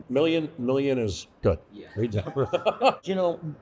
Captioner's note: laughs